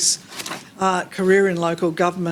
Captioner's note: paper rustling